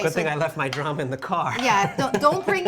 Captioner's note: laughs